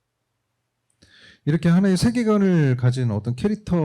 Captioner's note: speaking korean